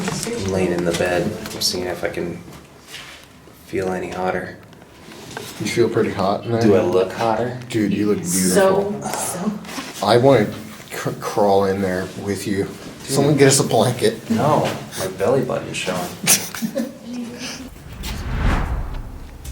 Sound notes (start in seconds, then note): 16.6 laughs